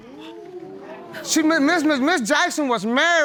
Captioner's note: audience gasp